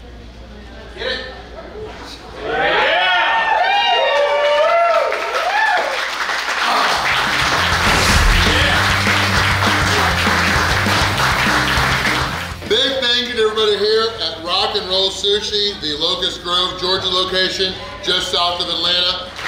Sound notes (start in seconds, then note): 2.7 cheering & Clapping